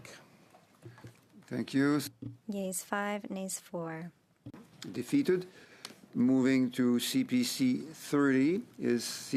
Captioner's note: speaking French